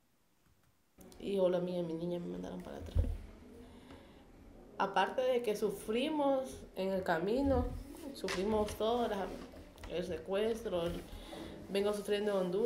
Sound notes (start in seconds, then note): 1.2 speaking spanish